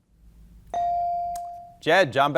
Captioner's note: bell dinging